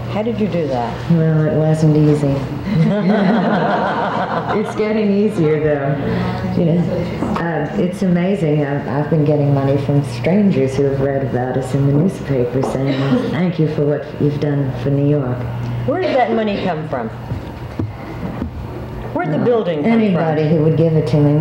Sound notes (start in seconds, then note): 2.7 laughs